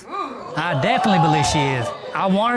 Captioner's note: audience hoots